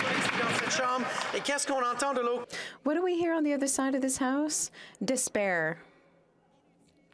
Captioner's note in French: applaudissements